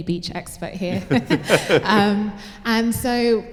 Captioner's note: laughter